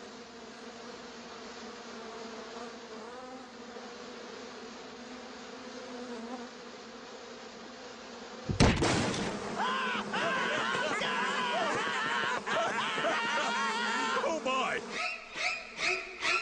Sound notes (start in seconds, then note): 8.5 crash; 9.5 wailing; 9.6 all laughing louder